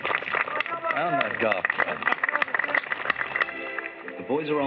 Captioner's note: applause